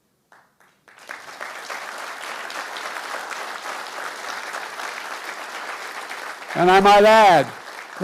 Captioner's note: applause